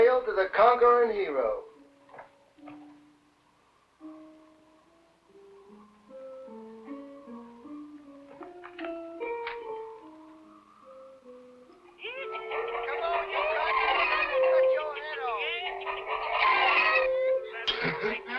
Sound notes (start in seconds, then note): 2.7 gentle music; 11.7 chickens clucking